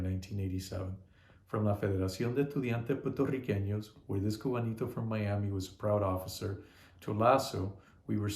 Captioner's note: spanish